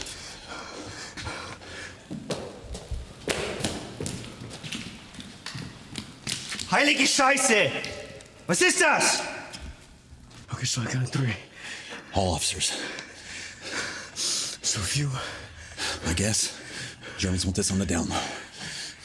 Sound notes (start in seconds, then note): 0.0 Anderson huffing; 6.7 officer speaking German